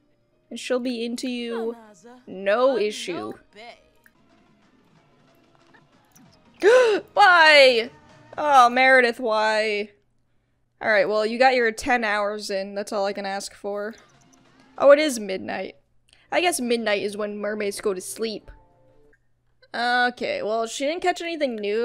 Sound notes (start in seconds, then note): 6.6 gasps